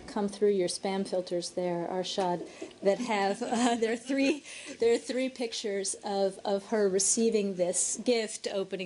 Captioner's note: laughter